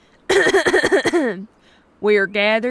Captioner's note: clears her throat